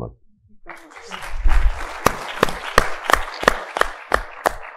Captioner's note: audience applauding